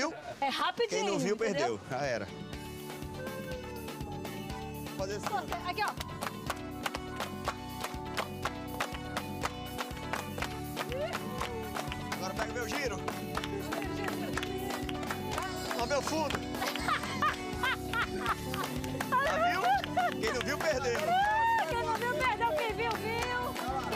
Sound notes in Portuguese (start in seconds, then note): 6.2 palmas ritmadas; 10.6 bradando; 16.3 ri muito